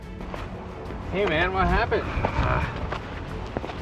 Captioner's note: grunts